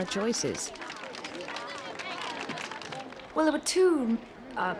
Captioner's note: crowd clapping